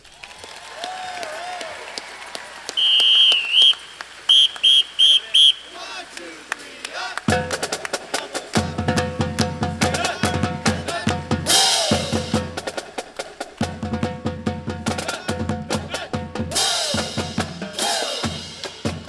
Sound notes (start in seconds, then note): 0.2 crowd cheering and clapping; 2.6 whistle blowing; 7.5 drum tapping; 15.3 band chanting